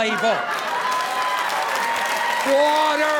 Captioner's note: crowd cheering